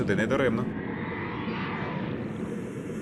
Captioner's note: scary sounds